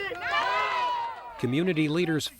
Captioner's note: people cheering